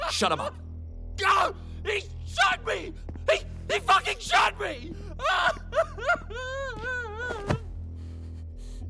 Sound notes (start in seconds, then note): 4.7 sobbing